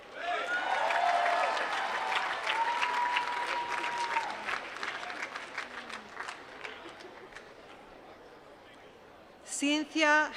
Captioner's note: applause